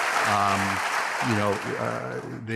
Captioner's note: applause